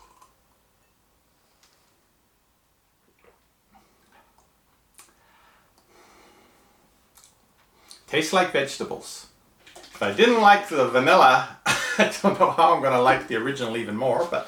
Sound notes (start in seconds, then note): 0.0 slurps; 3.1 swallows; 6.0 sighs; 11.9 laughs